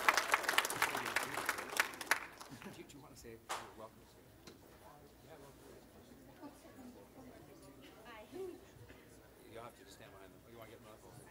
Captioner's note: applause